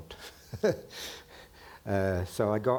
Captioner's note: chuckling